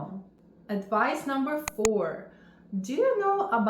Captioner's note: mouse clicks